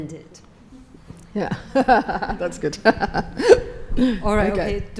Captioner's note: laughs